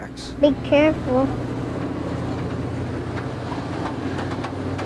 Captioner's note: train whirs